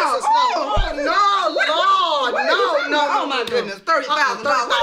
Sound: screaming

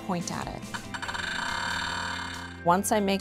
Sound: rapid, intensifying beeping

